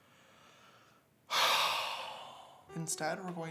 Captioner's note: man sighs